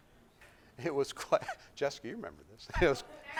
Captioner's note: laughs